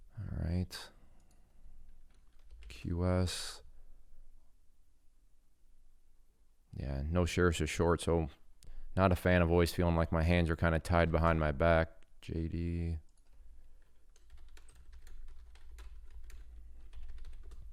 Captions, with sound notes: All right, QS. Yeah, no sheriffs are short. So, not a fan of always feeling like my hands are kinda tied behind my back. JD,(keyboard clicking)